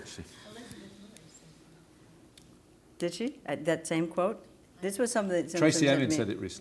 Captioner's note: audience mumbles